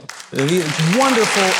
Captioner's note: audience applauding